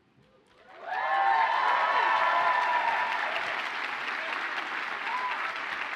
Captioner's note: audience cheers and applauds